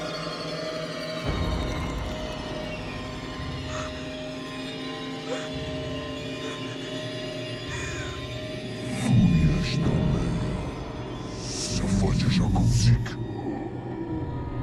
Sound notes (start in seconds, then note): 3.5 Jane gasping; 3.5 eerie music